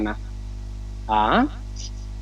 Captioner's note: spelling vocals